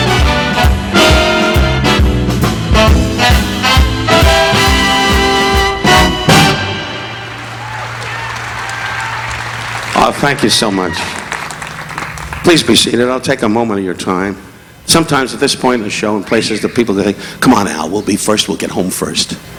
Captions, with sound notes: (upbeat instrumental music continues) (audience applauding) (audience cheering) Oh, thank you so much. Please be seated. I'll take a moment of your time. Sometimes at this point in the show in places, the people go, "Come on, Al. We'll be first. We'll get home first.